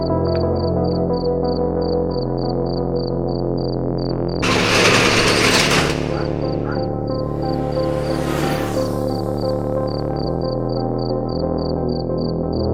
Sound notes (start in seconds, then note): 4.4 closing shutter; 8.2 bike passing